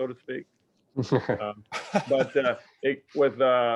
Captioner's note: laughs